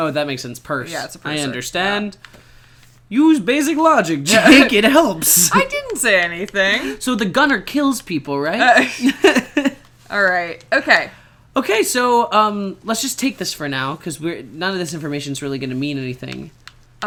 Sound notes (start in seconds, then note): 8.8 chuckle